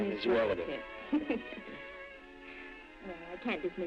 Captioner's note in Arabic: دكتور. بولين يضحك